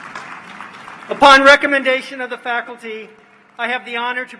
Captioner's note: applause